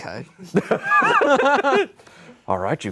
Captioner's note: laughs